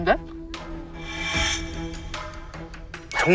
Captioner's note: sharp sound effect